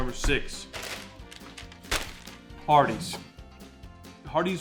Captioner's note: bag crinkling